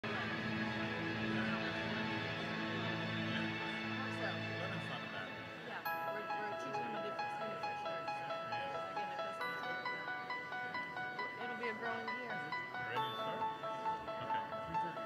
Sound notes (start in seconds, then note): 0.0 gentle music; 2.5 audience speaking; 5.8 gentle music